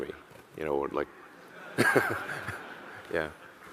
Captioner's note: audience laughing; laughs